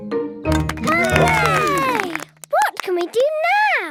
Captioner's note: all cheer